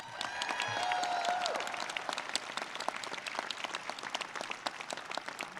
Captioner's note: audience cheers and claps